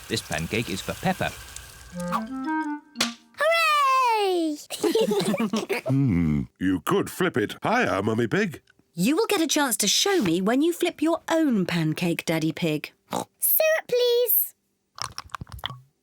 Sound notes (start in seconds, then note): 4.6 kids and mummy pig laugh; 13.1 oinks